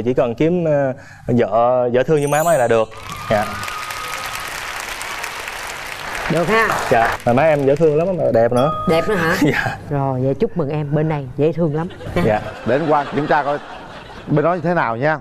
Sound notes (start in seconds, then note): 2.9 audience applause